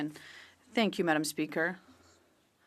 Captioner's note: speaking French